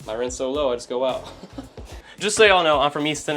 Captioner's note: chuckles